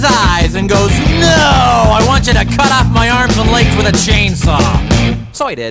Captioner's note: sarcastically